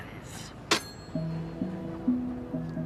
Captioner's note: alien hangs up phone